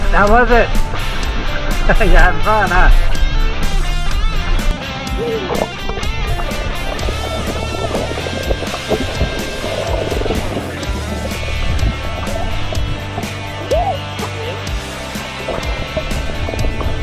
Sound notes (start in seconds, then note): 5.1 scuba Sounds